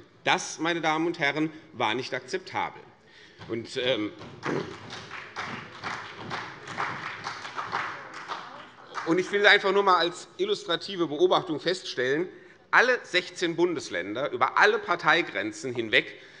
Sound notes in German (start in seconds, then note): 3.7 Beifall CDU und BÜNDNIS 90/DIE GRÜNEN